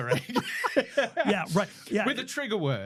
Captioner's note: laughing